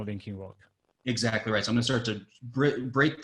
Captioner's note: faintly speaking